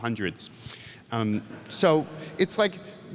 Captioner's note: audience laughs